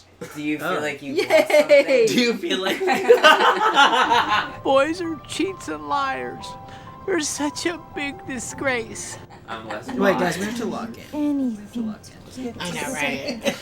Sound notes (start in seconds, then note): 2.6 laughs